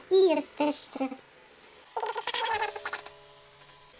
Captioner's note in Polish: głos dziecka